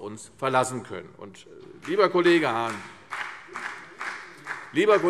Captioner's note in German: Vereinzelter Beifall CDU und BÜNDNIS 90/DIE GRÜNEN